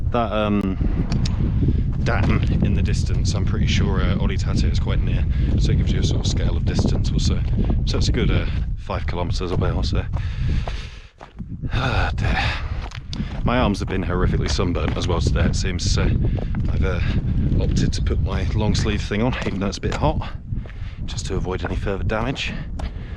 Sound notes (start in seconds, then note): 10.2 exhales